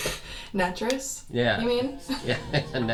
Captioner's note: laughs